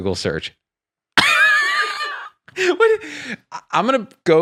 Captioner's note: laughs